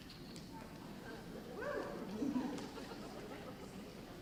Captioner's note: audience laughter